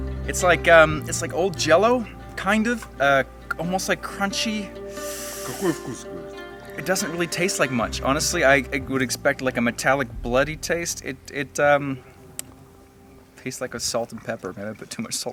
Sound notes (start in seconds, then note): 5.9 speaking in foreign language